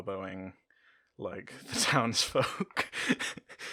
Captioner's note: laughter